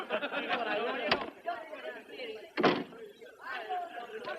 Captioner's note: door opens, closes